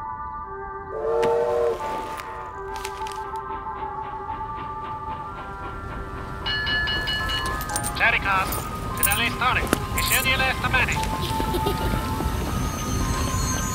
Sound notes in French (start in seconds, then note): 0.8 sifflet de train; 8.0 annonce à l'interphone